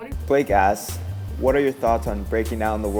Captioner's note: voiceover